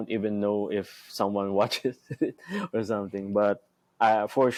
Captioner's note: chuckles